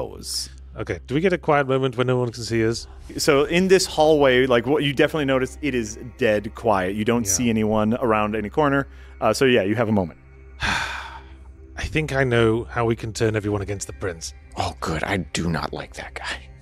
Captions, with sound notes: Okay, do we get a quiet moment where no one can see us? So in this hallway, like what you definitely noticed, it is dead quiet. You don't see anyone around any corner. So yeah, you have a moment. [Sigh] I think I know how we can turn everyone against the prince. Oh good, I do not like that guy.